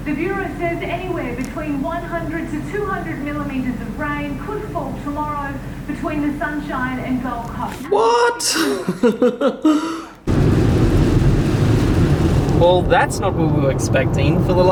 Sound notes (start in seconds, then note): 8.0 laughing; 10.2 rain pouring